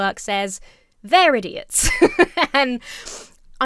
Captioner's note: laughs